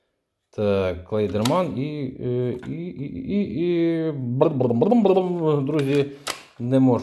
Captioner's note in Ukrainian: сміх